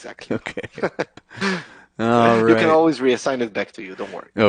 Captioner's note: chuckles; laughs